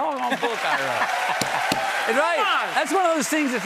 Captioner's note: cheers and applause